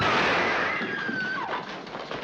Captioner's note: gun shots; screaming